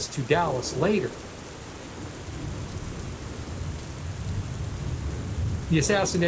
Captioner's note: heavy rain pattering